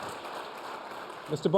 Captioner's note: applause